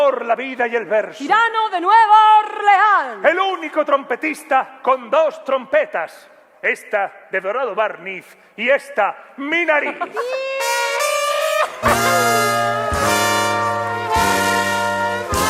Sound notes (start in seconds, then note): 11.0 applause